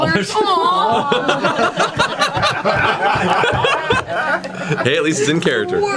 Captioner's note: all laugh